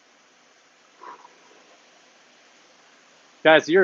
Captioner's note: exhales